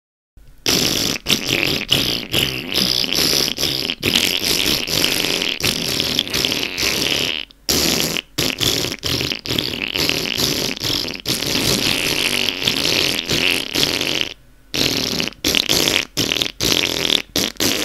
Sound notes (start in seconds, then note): 0.6 farting to the tune